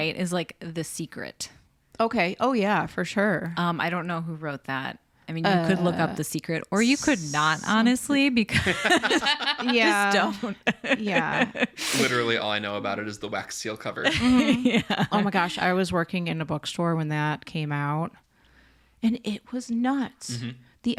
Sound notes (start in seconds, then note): 8.6 all laugh; 8.6 laughs